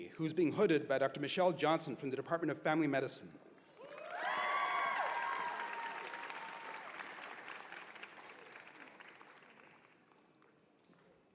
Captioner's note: cheers and applause